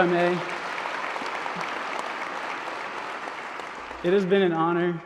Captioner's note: applause